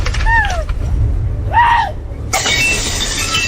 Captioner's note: screams